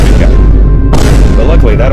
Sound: bo om

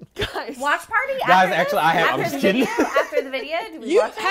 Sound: laughing

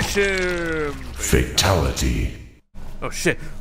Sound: voiceover

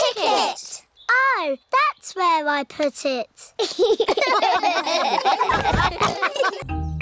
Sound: all laugh

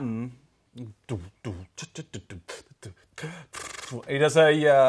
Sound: imitates drum sounds

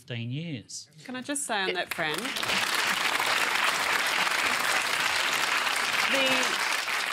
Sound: applause

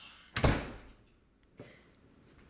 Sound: door closes

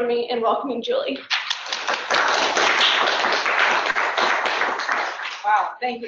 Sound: applause

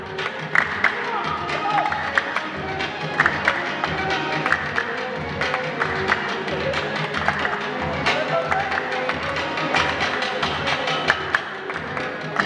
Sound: applause

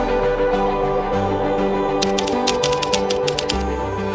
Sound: typing

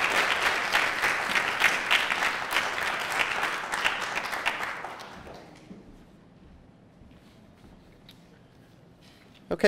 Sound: applause

